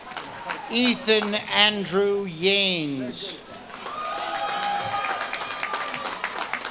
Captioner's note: audience claps and cheers